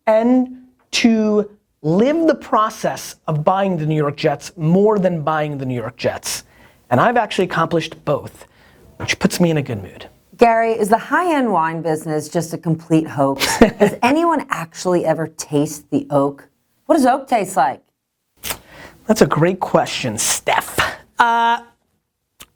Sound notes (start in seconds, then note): 13.4 laughter